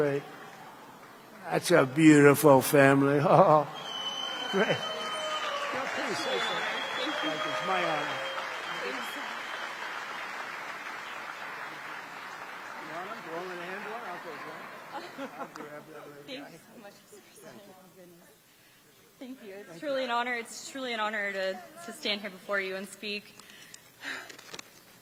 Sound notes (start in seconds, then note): 0.2 applause; 14.0 applause